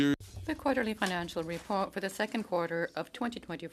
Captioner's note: speaking in French